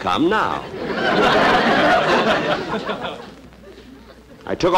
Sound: audience Laughing

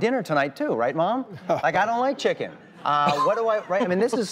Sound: laughs

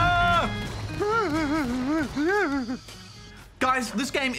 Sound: whimpers

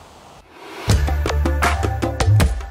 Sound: whooshing; upbeat music

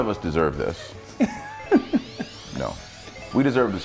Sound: laugh

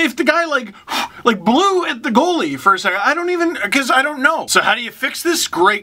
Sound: blows

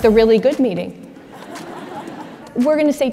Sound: audience chuckles

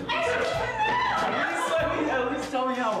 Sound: yelling

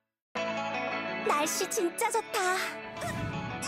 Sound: Korean

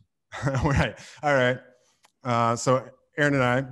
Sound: laughs

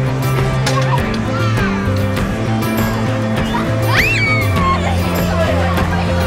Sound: kids squeeling

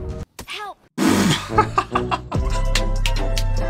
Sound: laughter

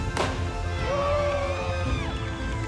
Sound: crowd cheering

